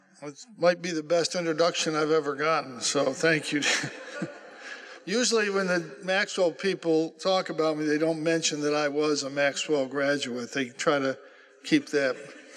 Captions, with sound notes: That might be the best introduction I've ever gotten, so thank you. (Laughter) Usually when the Maxwell people talk about me, they don't mention that I was a Maxwell graduate. They try to keep that